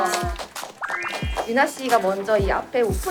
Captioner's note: round of applause for their DJ